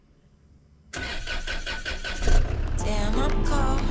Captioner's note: car starts